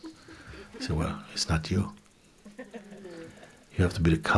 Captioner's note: laughter